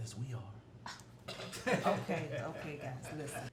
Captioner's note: Erica scoffs; family laughing